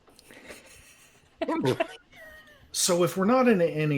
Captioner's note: laughing